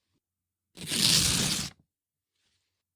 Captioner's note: ripping